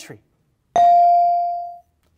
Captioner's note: bell rings